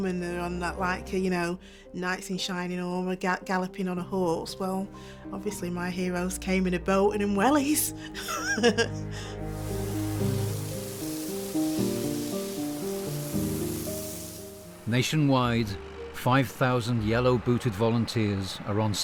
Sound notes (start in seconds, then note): 8.2 laughs; 8.3 pensive music; 9.3 water sprays